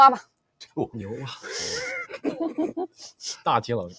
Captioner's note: laughs